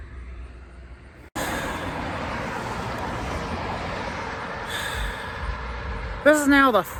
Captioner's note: Traffic on Paulding Road